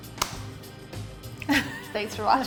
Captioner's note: laughs